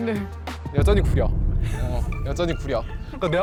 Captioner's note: sound effect pushing a catchphrase